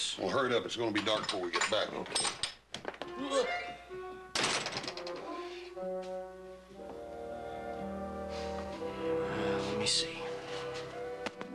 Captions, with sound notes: WELL, HURRY IT UP. IT'S GOING TO BE DARK BEFORE WE GET BACK. ( gasps ) WELL, LET ME SEE.